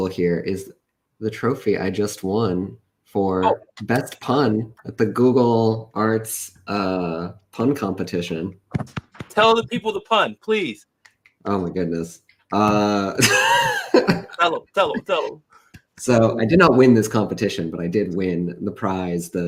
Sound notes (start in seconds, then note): 13.2 laughs